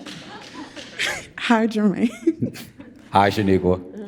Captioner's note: audience laughs; laughs